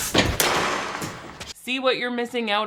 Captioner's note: metallic clanging